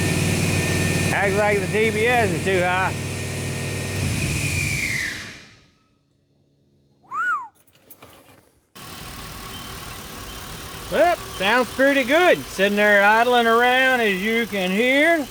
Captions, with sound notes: Act like the DBS is too high. (Whistles) Well, sounds pretty good. Sitting there idling around as you can hear.